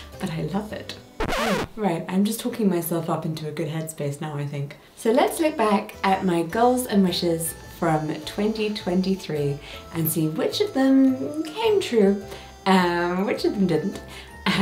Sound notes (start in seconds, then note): 1.2 record scratching